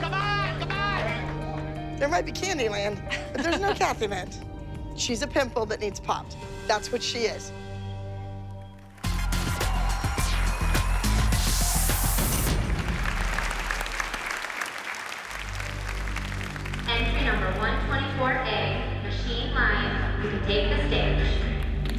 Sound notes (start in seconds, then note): 12.8 applause